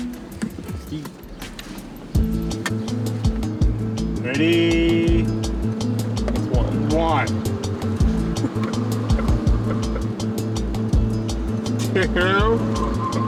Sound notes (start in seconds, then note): 7.8 chuckling